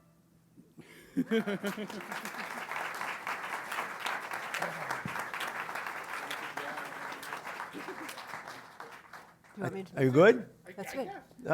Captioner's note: applause